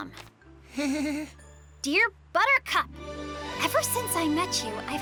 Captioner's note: nervous laugh